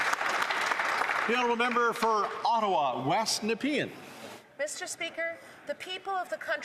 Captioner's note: some Applause